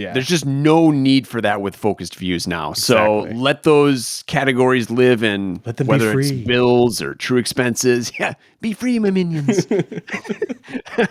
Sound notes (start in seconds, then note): 9.3 chuckling